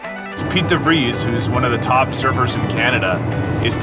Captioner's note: laughs